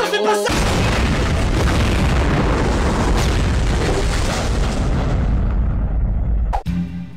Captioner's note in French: explosion immense